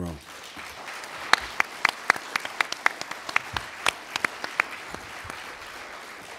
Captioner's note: applauding